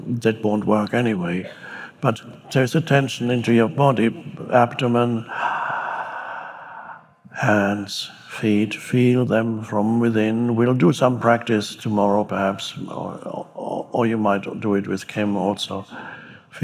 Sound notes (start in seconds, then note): 5.3 Eckhart exhaling